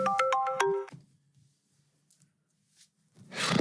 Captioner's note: phone rings